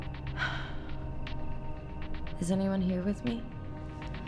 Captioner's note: sighs